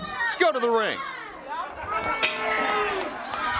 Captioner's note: crowd chatter; crowd cheering